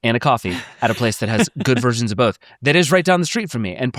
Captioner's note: laughs